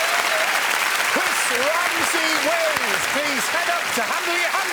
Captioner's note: cheers and applause